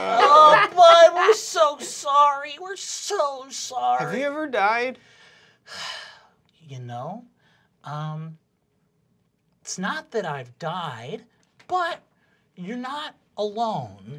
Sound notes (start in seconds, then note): 0.0 groans; 5.7 sighing